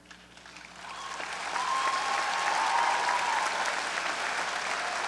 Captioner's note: audience applauding